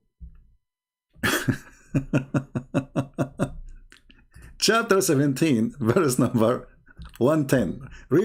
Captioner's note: Ketawa